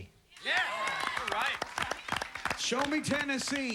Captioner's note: applause